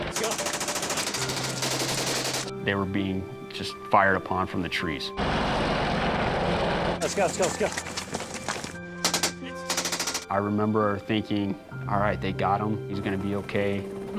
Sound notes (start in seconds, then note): 0.0 gunfire; 5.2 helicopter; 9.0 gunfire